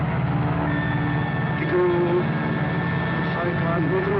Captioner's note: speaking japanese